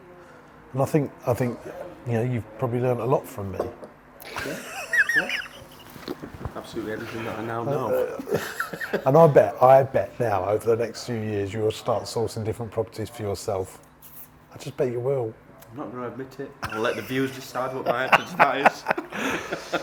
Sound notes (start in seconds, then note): 4.3 laughs; 8.6 laughing; 17.5 laughing